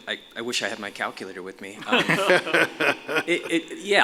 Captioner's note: laughter